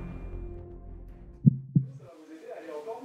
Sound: heartbeat

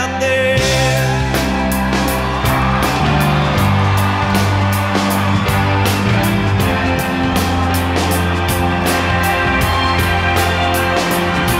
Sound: crowd Cheering

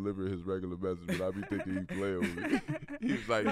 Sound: laughs

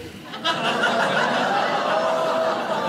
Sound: crowd

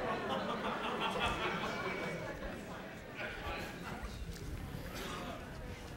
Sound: laughter

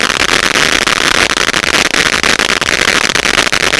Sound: fireworks crackling

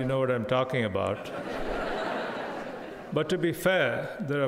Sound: crowd laughing

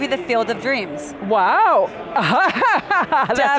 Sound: laughing

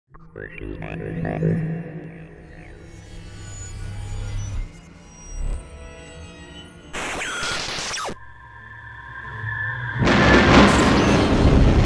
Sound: sound Effects

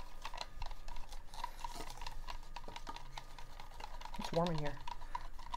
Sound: fan whirs

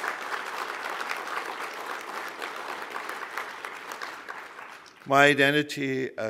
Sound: applause

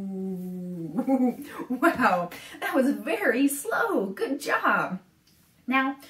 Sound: laughs

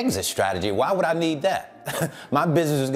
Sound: chuckles

